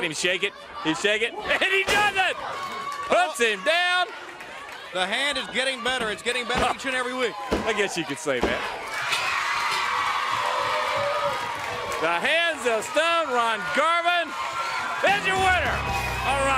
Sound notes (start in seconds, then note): 7.5 crowd chatter